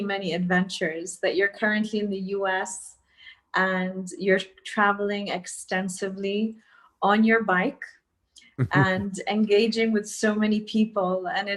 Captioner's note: Sadhguru laughs